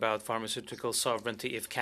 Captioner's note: speaking French